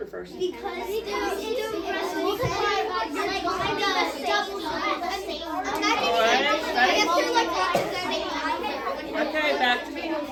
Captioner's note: students talking with partners